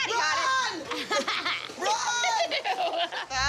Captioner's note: laughter